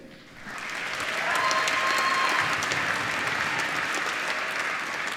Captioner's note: applause